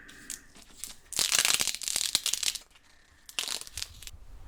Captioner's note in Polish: dźwięk odrywania taśmy